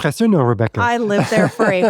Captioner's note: foreign language 00:17:03